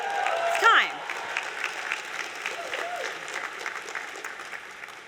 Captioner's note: applause